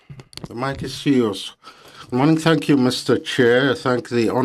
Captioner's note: speaking French